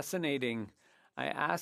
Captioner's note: speaking French